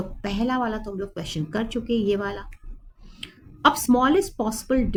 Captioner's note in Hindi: नाक से की जाने वाली आवाज़